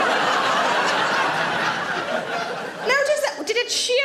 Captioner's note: audience laughs